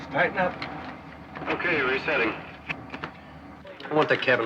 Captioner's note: man On Radio